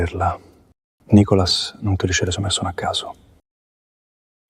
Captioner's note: Italian; Italian